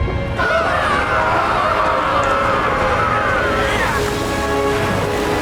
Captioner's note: all yelling